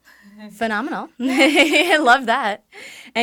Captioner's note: laughs